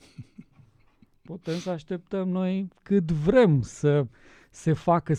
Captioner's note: snort